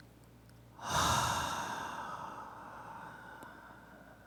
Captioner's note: exhaling